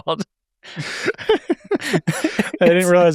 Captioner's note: laugh